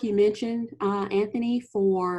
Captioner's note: woman's Voice